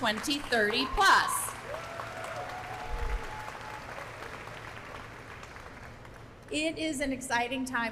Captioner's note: applause